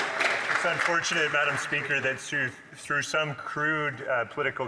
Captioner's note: some Applause